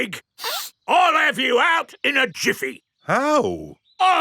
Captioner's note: sniffs